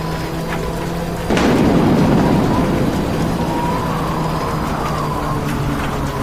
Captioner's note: thunder cracks